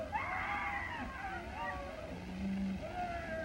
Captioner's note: whooping